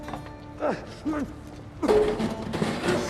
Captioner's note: retching